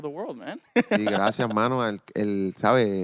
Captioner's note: laughing